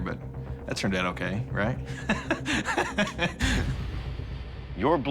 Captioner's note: laughs nervously